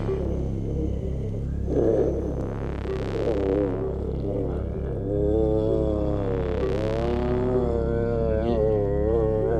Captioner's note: groaning